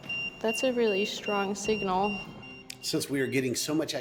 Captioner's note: EMF beeping